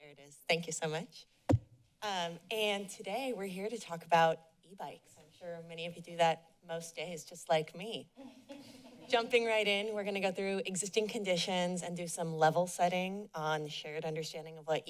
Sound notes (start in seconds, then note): 8.2 laughter